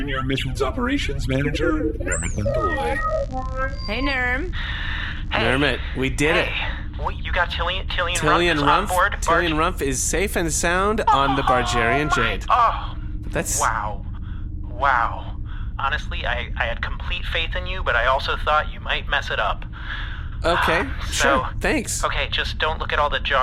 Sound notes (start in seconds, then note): 1.2 call connects; 5.2 sighs